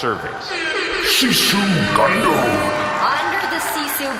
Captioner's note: airhorns, audience cheering